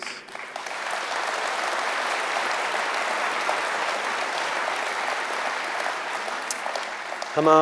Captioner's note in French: Applaudissements